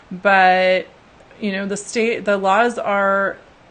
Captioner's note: none